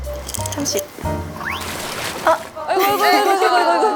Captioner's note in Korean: 콸콸